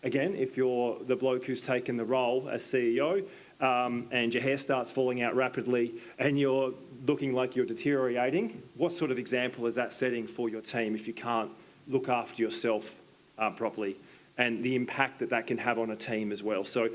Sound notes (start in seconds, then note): none